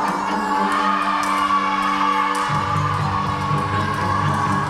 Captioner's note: teams cheering